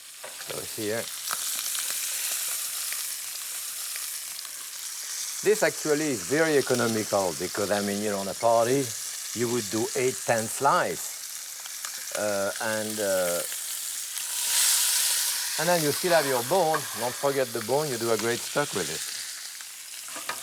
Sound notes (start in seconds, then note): 2.0 sizzling; 12.8 sizzling